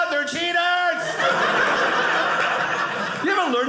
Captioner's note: audience laughing